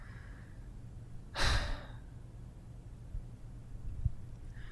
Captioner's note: sighs